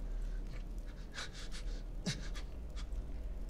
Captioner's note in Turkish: Nefes sesi